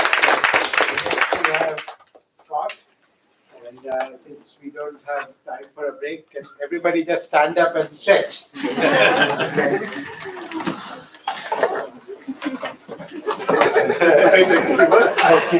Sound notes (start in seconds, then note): 8.6 laughter